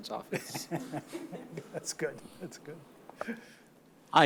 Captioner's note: chuckles